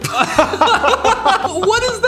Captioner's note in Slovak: smiech